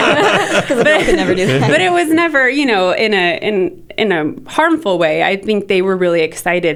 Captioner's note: laughter